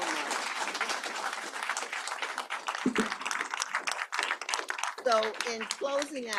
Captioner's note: applause